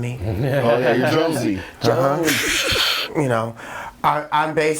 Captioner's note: overlapping chatter